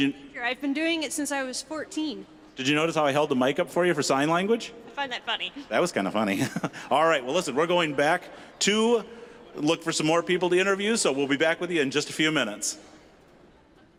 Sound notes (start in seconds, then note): 5.6 laughing